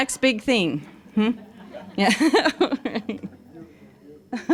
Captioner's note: laughing